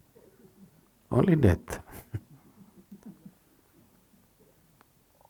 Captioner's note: laughs